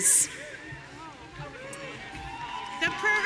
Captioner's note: audience cheering